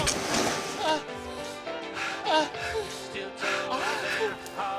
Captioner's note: Boyd screaming; Boyd whimpering